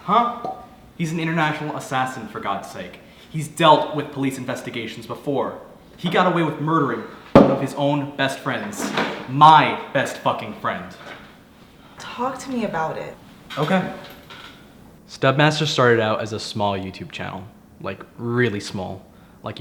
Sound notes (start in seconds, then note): 7.3 bottle thudding